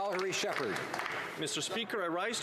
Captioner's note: some Applause